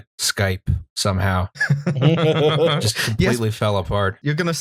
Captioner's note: laughter